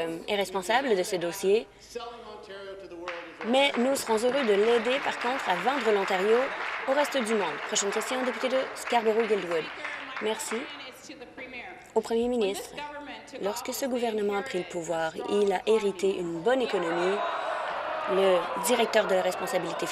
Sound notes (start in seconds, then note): 7.3 applause